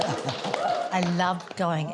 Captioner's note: cheering, applause